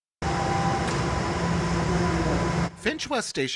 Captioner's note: ambient subway sounds